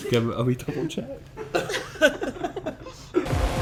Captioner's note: laughing